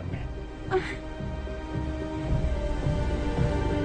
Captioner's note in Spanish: Quejidos